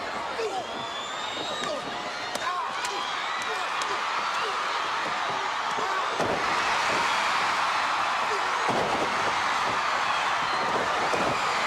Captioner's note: crowd chatter; crowd cheering